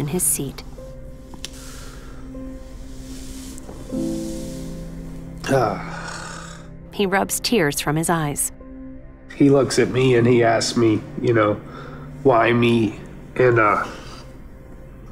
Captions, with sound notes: [sighs, groans] He looks at me and he asks me, “Why me?” And...